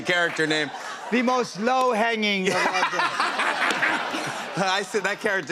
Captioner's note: laughter